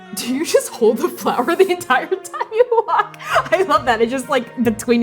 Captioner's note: laughing